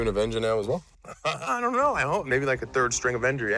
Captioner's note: laughs